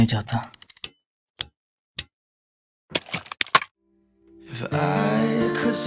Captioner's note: Clicking